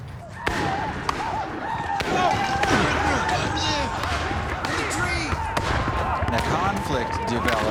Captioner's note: tense music; gunshots, whooping